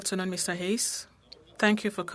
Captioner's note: speaking French